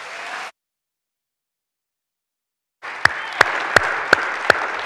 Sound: audience clapping

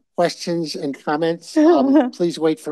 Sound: chuckles

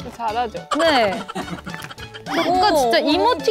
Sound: staff are laughing

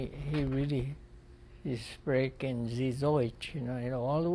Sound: speaking german

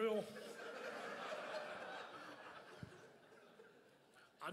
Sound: crowd laughs

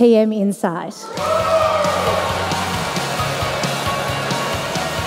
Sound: cheering, applause

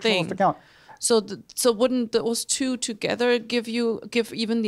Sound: voiceover

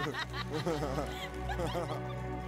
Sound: Connie and Tristan laugh

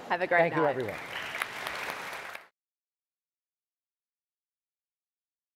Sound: applause

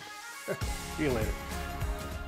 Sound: chuckles

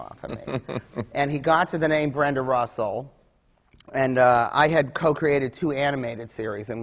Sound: laughs

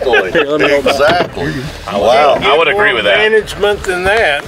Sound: men talking

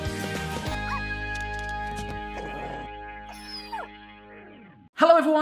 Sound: dog yips and whines

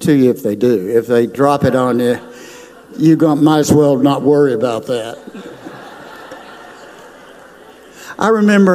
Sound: crowd laughs

